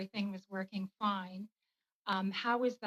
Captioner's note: speaking french